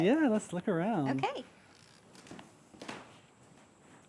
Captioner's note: door creaking